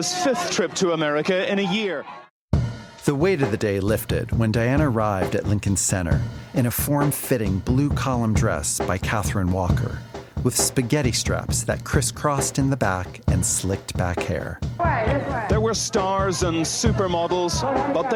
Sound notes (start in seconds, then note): 14.8 crowd cheers